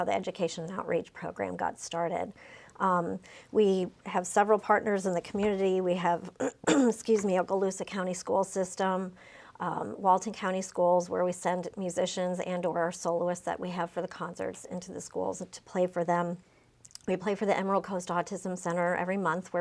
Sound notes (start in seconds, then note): 6.4 cough